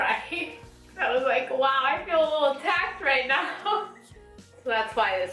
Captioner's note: laughs